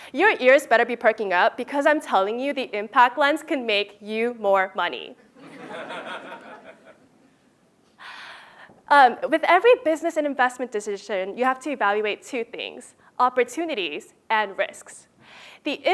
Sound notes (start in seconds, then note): 5.4 laugh